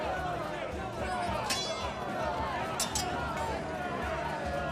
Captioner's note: crowd shouting